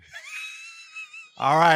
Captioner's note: laughter